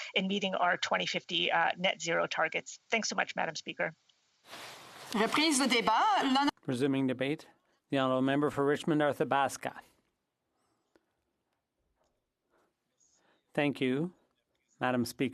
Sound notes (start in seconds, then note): 9.2 speaking French